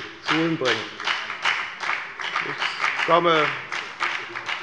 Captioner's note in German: Beifall bei der FDP und bei Abgeordneten der SPD